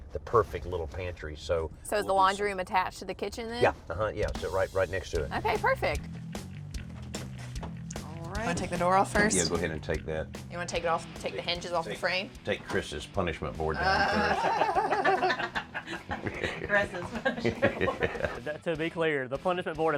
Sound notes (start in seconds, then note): 13.8 laughter